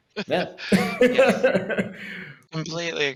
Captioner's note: laugh